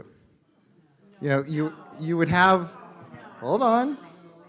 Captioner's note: crowd talking